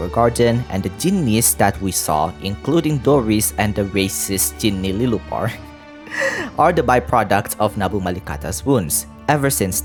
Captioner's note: heh